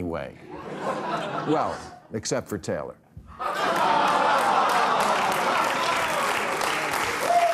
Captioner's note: audience cheering, applauding